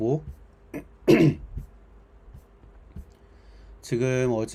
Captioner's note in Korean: 목을 가다듬음